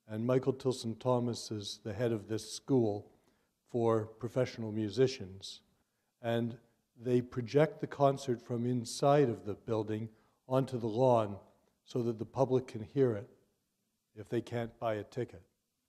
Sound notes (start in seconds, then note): none